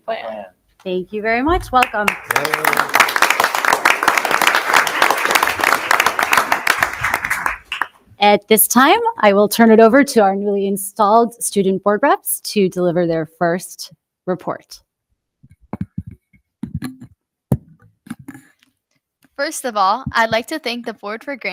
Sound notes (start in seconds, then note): 1.7 audience applause